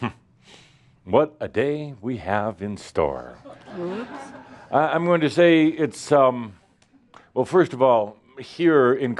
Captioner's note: laughter